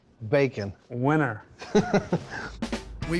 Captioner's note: laughs